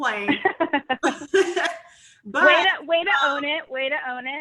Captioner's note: laughs